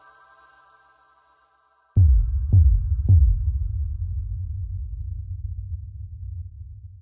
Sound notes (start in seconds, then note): 1.8 pulsing booms with words